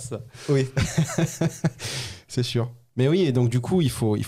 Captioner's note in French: Rires